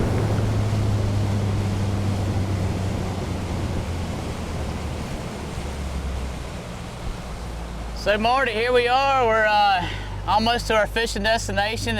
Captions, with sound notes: [engine decelerating] So, Marty, here we are. We're, uh, almost to our fishin' destination.